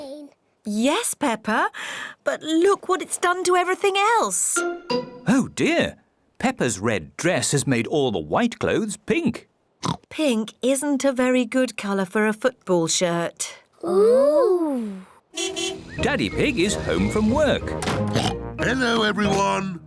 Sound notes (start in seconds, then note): 9.8 oinks; 15.3 car horn toots; 18.0 oinks